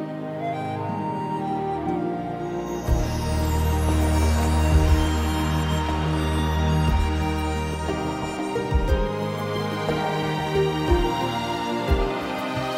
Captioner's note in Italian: Applauso